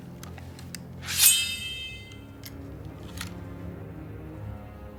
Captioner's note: sword dinging